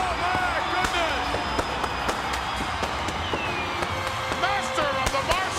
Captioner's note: fireworks blasting